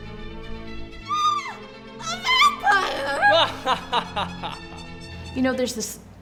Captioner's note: he laughs